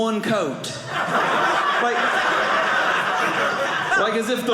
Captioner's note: audience laughing